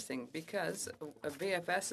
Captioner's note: speaking French